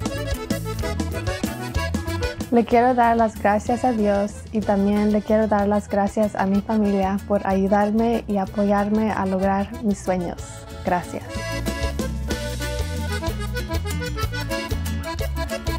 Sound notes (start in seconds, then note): 2.5 speaks in foreign language